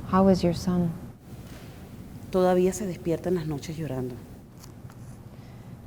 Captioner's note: speaking Spanish